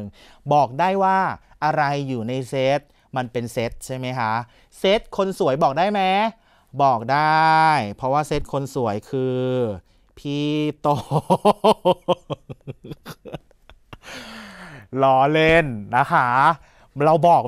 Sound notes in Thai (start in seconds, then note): 11.0 เสียงหัวเราะ